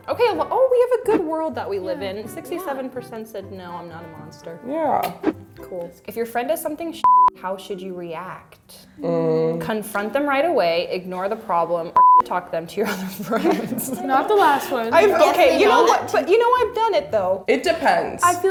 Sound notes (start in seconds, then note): 9.0 groaning; 12.8 laughing